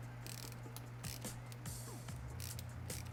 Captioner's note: clicking